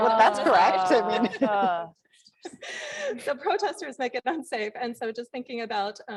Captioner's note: laugh